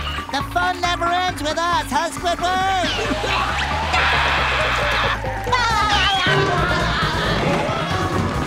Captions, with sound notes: The fun never ends with us, huh Squidward? [screaming] [laughing]